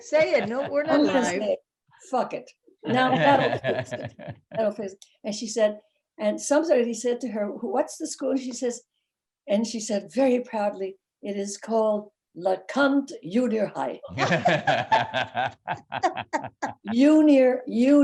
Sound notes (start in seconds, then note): 12.1 speaking in foreign language; 14.1 laughing